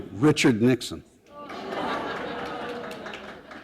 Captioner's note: laughter